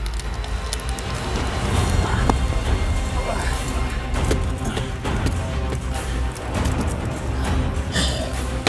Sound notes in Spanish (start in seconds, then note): 0.1 música dramática; 2.6 Jonathan gruñe; 8.4 gruñido de cadáver